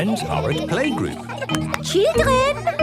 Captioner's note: clapping